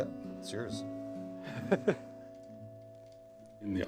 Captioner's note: laughs